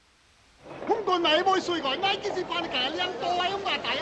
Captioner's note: man speaking Chinese